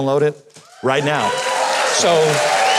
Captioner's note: audience cheers